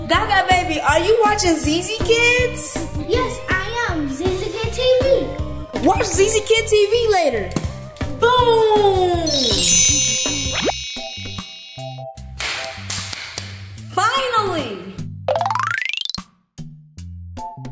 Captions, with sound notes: Gaga Baby, are you watching ZZ kids? - Yes. I am. ZZ kid TV. - Watch ZZ kid TV later. Boom. (high-pitched chimes) (hands clapping) Finally. (upbeat music)